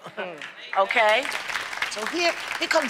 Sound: applause

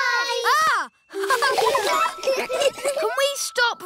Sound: gasps; all laughing

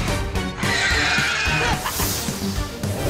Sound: laughs

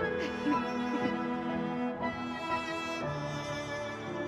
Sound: Brigit giggling

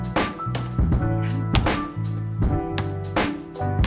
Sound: upbeat music; ball thumps

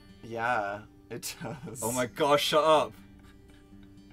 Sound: laughing; dan continues being adorable, laughing softly

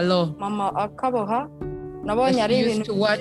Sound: speaks foreign language

